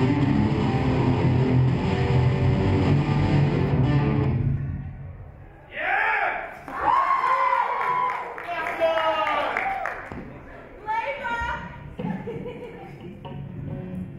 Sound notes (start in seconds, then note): 6.5 audience cheers